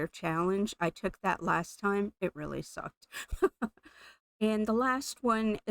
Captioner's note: laughing